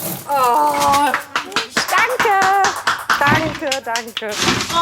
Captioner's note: clap